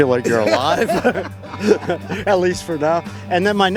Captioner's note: laughing